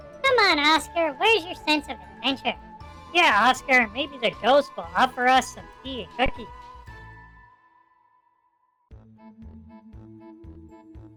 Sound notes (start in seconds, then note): 3.4 sarcastically